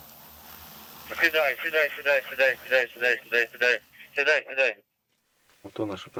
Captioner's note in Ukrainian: з рації